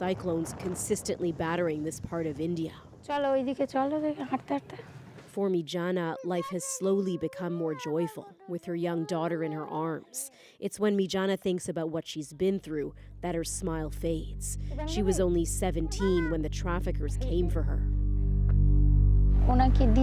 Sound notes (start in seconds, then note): 6.1 speaking alternate language